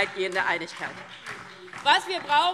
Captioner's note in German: Beifall DIE LINKE